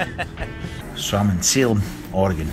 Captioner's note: laughs